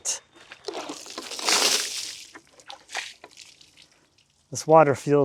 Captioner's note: water splashes